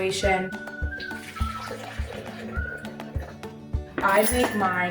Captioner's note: water splashing